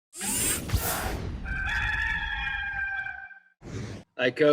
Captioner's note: robotic noise; rooster crowing